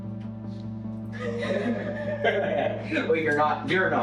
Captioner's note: laughing